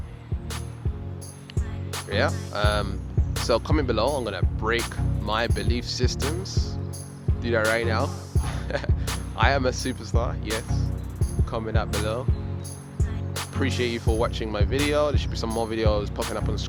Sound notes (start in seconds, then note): 0.1 inspirational hip-hop music; 8.4 laughing